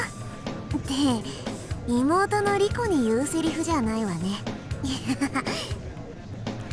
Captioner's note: awkward laugh